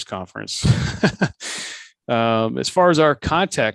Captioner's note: laughs